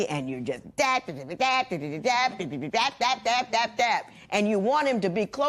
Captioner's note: imitating nagging